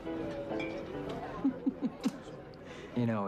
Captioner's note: giggles